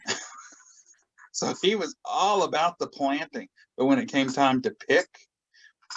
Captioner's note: laughs